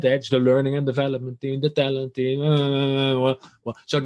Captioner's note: mimics mumbling